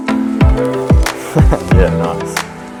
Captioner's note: chuckles